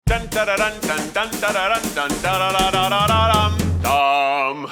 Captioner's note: Keith humming fanfare music